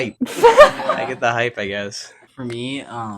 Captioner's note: all laughing